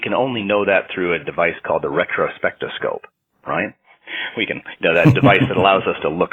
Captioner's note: chuckles